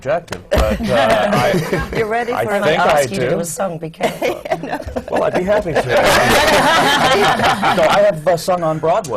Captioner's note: laughter